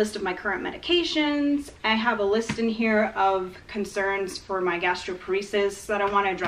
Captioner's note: tapping noise from her hand on the binder can be heard